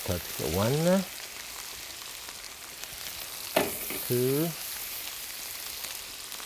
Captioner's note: pan sizzling